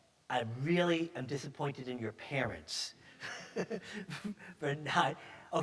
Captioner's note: chuckles